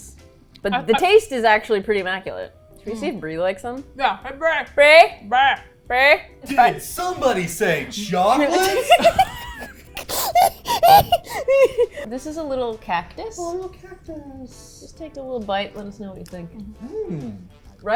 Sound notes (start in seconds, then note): 8.1 both laugh